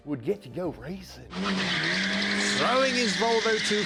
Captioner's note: tire skidding